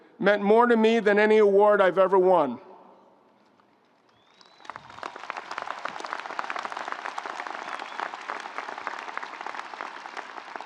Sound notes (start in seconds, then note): 4.1 audience applauds